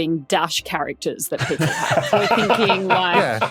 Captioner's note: others laughing